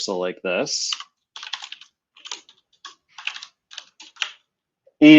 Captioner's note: typing